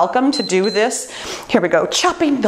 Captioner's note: timer beeps